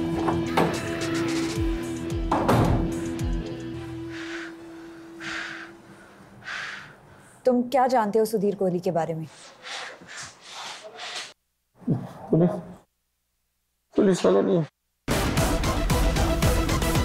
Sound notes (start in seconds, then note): 0.1 Door closing; 0.2 Door opening; 3.7 Heavy breathing; 9.2 Heavy breathing